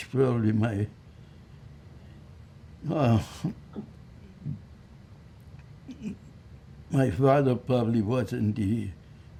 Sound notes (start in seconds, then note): 2.5 throat-sound